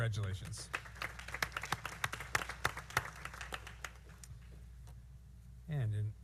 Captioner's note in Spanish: aplausos